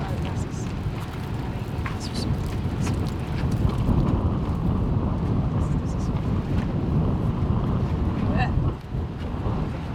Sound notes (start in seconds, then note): 1.3 wind whooshing